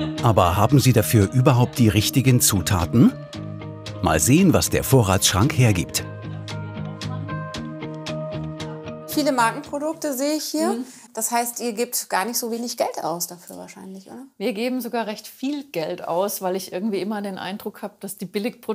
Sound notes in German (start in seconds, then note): 6.8 Leises Gespräch, ruhige Musik